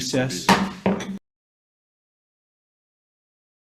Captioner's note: gavel pounds